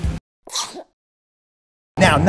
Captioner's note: sneeze sound